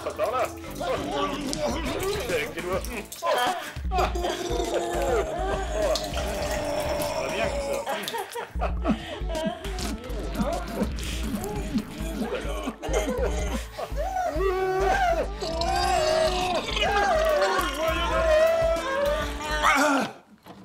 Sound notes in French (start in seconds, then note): 0.0 vomissement; 0.2 Oh, Ah, mhmmm; 3.8 vomissement